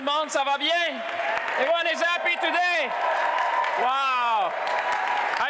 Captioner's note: applause; applause